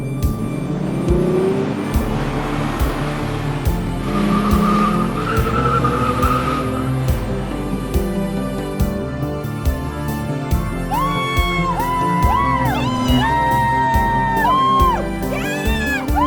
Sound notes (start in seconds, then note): 0.2 engine revving; 3.7 tires screeching